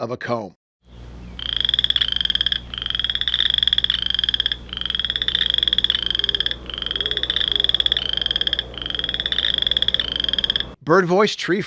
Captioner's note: boreal chorus frog call